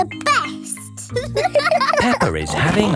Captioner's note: giggles; laughing